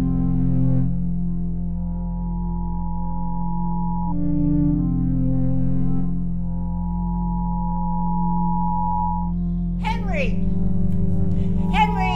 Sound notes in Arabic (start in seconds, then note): 1.9 صوت صفير منخفض رتيب